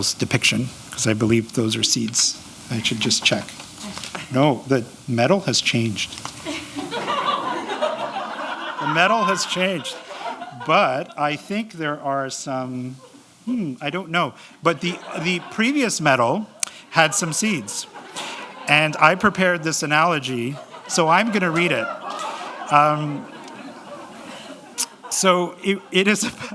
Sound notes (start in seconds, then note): 6.4 laughter